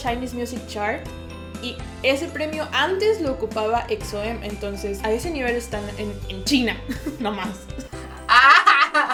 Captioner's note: frustration